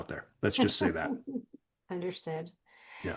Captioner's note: giggling